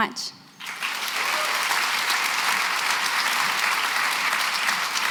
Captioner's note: applause